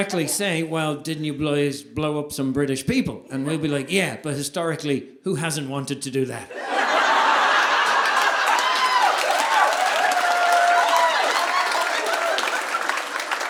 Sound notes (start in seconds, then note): 6.5 audience laughing; 6.8 audience applauding